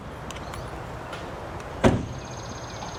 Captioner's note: car door bangs; birds chirping